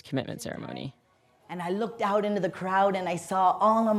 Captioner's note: soundbite of archived recording